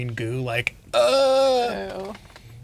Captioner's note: groaning